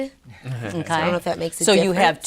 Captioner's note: laughing